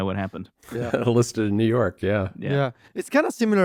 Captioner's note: laughs